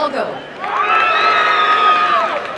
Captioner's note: applause and cheering